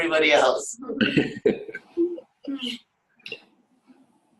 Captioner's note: laughter